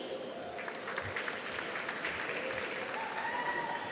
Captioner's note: applause